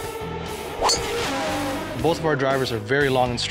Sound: cars racing and golf club hitting ball

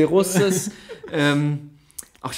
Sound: laughs

